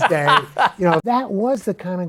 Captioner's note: laughs